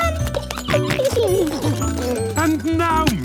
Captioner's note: giggling, snorting